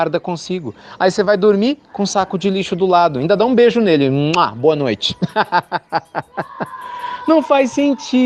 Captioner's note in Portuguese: Risos